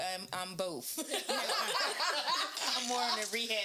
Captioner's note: laughing